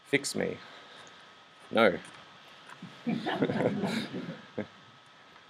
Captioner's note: laughs